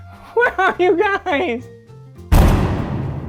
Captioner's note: panting